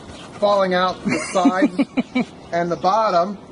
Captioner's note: laughing